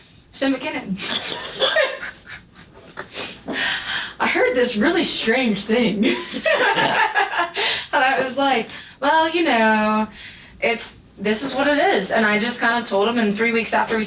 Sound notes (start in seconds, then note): 6.0 laughter